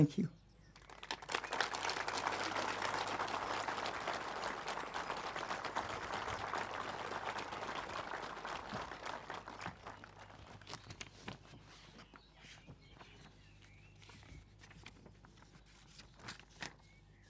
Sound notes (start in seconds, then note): 3.1 speaking indigenous language; 6.1 applause